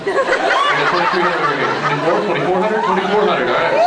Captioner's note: laughs; cheers